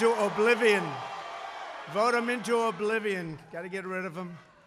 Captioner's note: applause